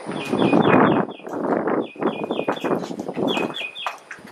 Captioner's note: birds twittering